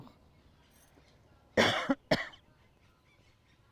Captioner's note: coughing